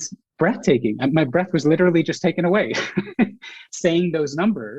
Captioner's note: laughs